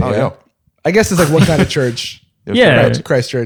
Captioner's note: laughter